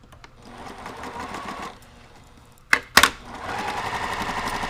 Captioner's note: machine sewing